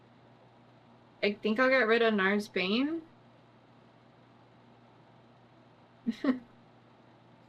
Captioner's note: laughs